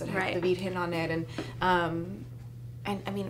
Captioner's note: speaking foreign language